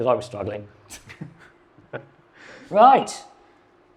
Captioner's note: chuckles